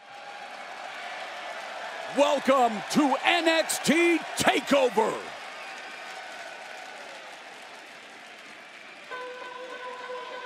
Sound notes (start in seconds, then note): 2.2 crowd cheering